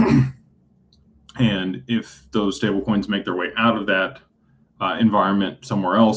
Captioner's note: clears throat